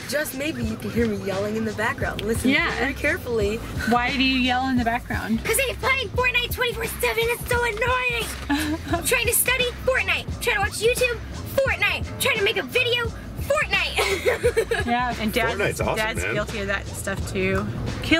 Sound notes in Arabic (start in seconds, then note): 8.4 ضحكات; 13.9 يضحك